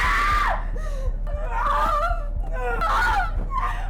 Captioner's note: screams; whimpers